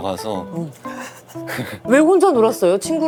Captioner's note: giggles